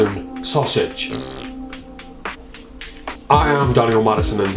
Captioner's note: farting